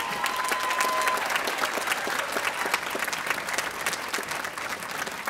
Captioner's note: audience applauding